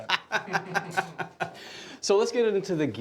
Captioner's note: laughing